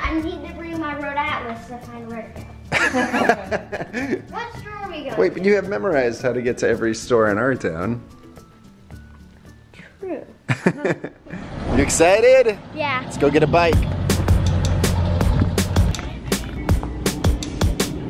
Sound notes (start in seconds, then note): 2.7 laughing; 15.3 upbeat music